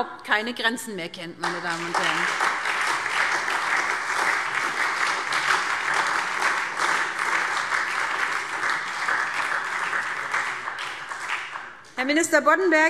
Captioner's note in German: Beifall SPD und Freie Demokraten